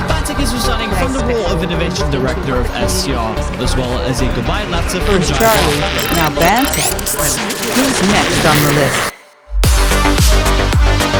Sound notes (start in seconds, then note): 4.3 audio glitching; 9.1 synthwave music